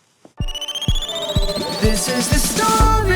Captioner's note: beeping